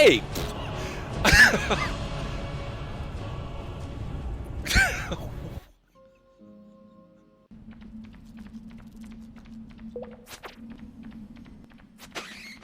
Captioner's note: laughs